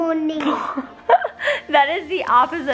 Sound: laughing

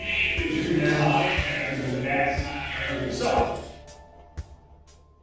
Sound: warped voice

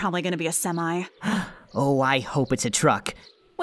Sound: gasp

